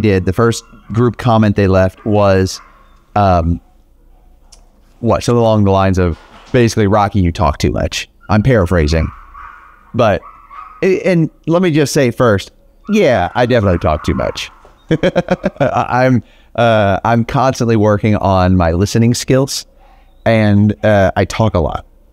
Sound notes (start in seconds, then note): 12.9 laughs